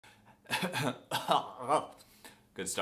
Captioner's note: cough